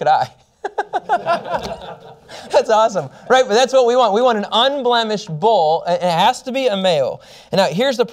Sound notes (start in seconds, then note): 0.6 laughter